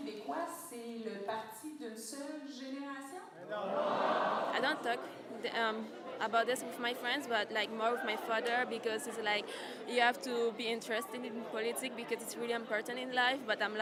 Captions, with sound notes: [speaking in French] I don't talk about this with my friends, but more with my father because he's like, "You have to be interested in politics because it's really important in life."